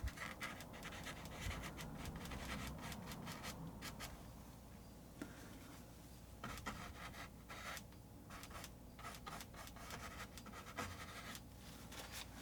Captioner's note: scratching sounds